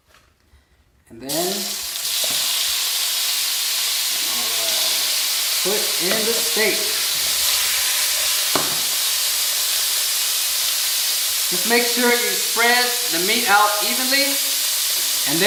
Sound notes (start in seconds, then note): 7.0 meat sizzles